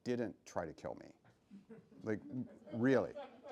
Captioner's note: laughs